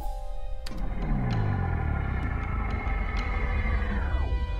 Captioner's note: thudding; whirring; gloomy music